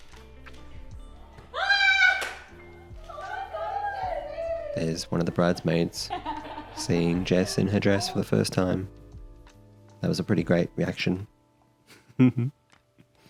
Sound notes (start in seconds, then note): 0.2 gentle music; 1.5 bridesmaid screams; 11.9 chuckles